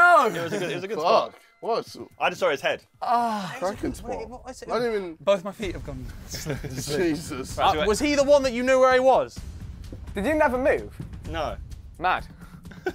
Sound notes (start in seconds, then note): 3.0 groaning